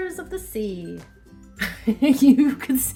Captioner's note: laughing